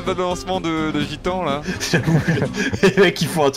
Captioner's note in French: rires